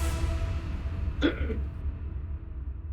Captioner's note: gasps